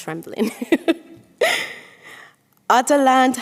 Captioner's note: chuckles